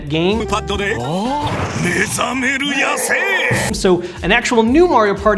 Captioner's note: speaks in foreign language